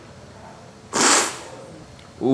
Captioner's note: sips